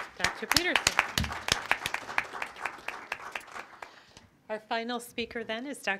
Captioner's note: crowd applauding